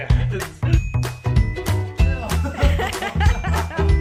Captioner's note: laughter